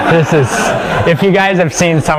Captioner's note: laugh